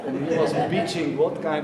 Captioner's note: audience laughing